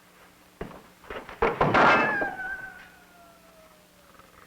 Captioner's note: statue clanking